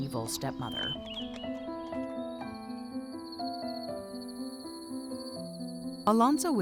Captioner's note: warm music; insects buzzing